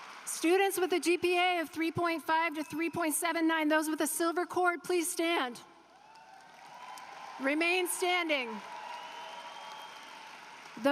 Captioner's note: applause